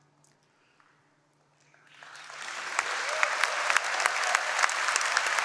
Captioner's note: applause